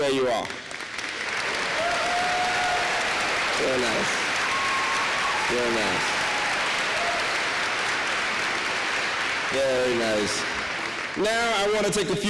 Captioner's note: applause